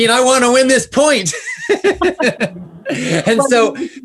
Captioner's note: laughs